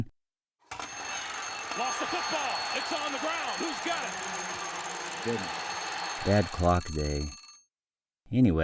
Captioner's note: alarm sounding